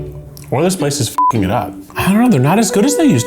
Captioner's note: beep